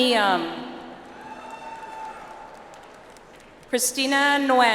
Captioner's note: audience applauds